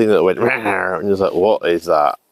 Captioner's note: roar